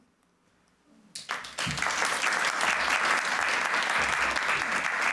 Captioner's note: applause